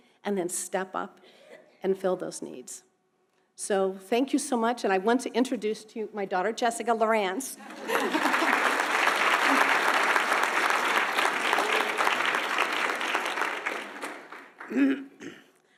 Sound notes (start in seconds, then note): 7.7 audience applauding